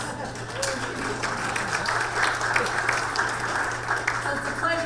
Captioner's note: audience applause